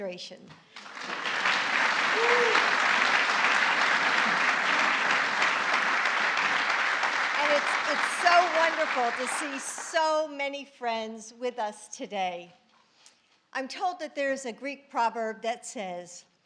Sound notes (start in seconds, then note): 0.6 applause